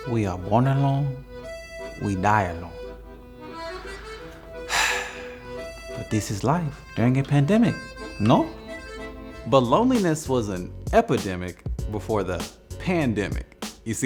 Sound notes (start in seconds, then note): 3.1 italian music; 4.6 sighing